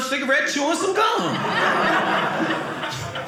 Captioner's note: audience laughing